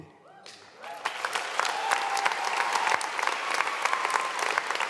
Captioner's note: audience applauding